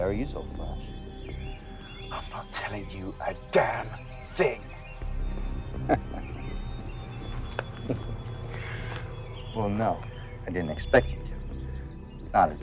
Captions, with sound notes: Could be very useful for us. - I'm not telling you a damn thing. (vampire laughing) (intense music continues) - Well, no, I didn't expect you to. Not as a human.